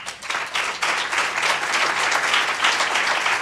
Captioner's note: applause